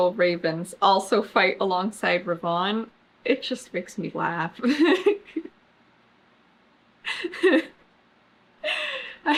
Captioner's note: laughs